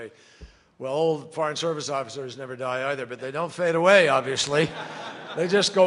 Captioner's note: laughter